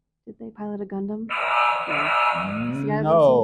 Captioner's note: error sound effect